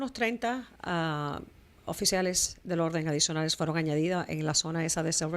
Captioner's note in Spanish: Hablando ingl\s